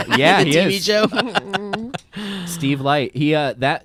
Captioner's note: laughs